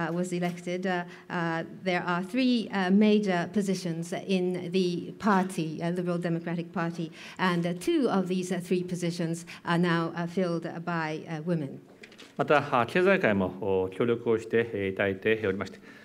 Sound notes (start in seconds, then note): 12.9 speaking japanese